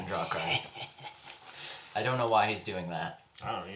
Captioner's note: continues snickering